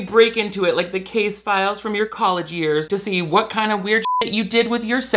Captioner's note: beep